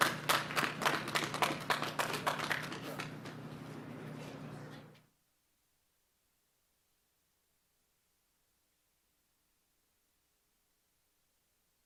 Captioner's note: applause